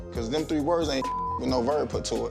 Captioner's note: beep